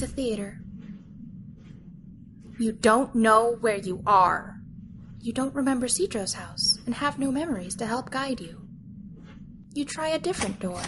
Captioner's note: calmly